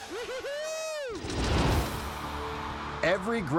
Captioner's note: logo swooshing